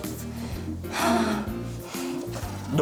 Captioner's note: sighs